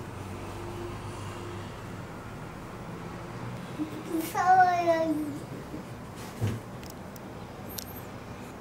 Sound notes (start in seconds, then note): 4.4 laughing